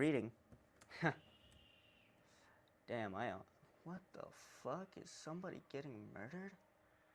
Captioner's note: blood curdling scream in the distance